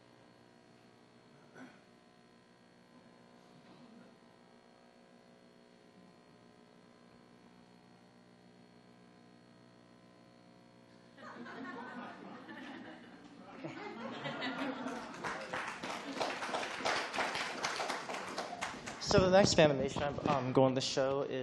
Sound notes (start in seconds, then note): 11.2 laughs; 14.5 applause